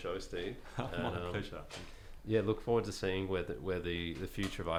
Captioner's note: laughs